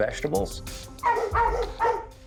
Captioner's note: dogs barking